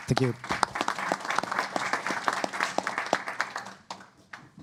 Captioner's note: applause